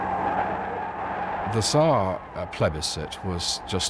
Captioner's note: cheering